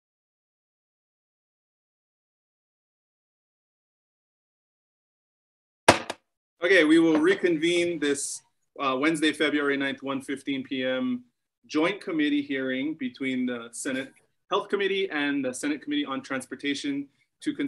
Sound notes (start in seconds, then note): 5.9 gavel bangs